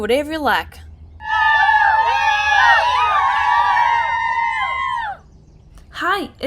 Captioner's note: class cheering